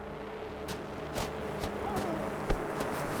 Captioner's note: suspenseful music; footsteps thudding